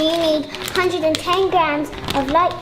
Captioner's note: packet rustles